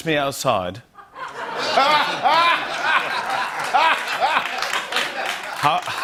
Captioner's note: laughter